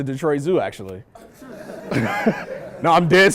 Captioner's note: laughter